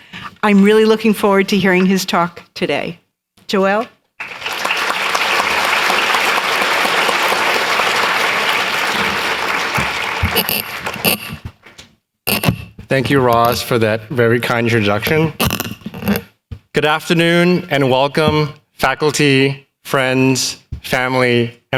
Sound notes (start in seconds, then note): 4.2 applause